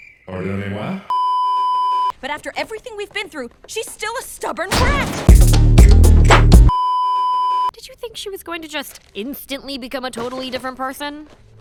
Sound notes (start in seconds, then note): 1.1 beeeeeeeeeeeep; 6.7 beeeeeeeeeeeep